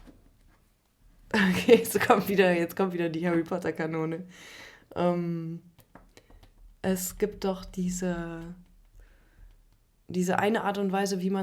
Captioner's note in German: gelächter